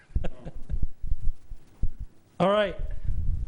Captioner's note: laughs